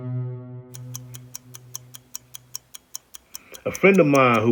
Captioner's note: ticking